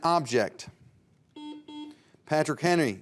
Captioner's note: buzzer dings